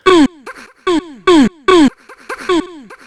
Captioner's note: grunts